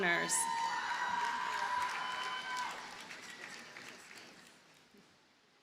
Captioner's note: audience cheers and applauds